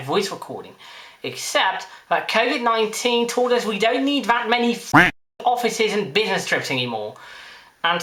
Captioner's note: quack